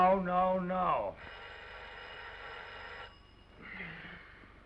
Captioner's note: phone ringing